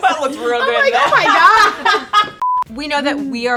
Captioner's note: girls laugh; high pitch beep